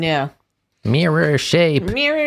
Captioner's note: nasally